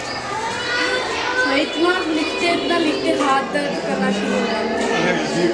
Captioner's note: in Urdu